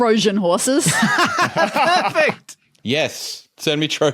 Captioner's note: group laughing